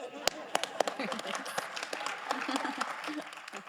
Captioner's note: all applauds; all laughs